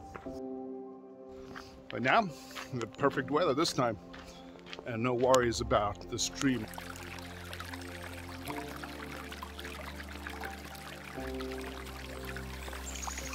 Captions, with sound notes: (soft music) But now, the perfect weather this time. And no worries about the stream. (water splashing) (water splashing)